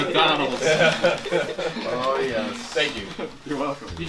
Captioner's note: background chatter and laughter